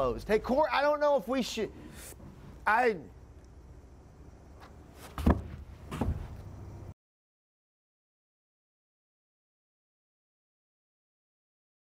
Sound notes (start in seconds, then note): 5.1 thud